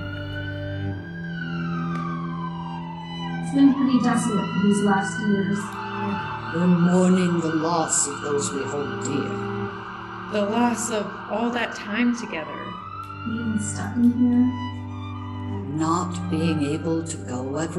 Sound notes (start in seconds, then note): 4.6 ambulance sirens increase in volume; 8.2 sirens increase in number and volume